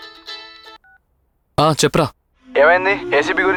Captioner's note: on phone